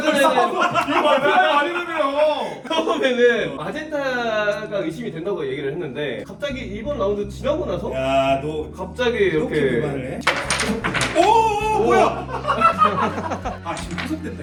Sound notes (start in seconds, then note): 10.3 crash